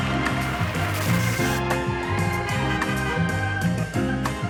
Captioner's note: static screeching; audience applauding; upbeat music continues